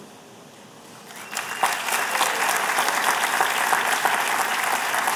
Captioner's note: applause